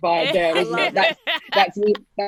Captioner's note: laughing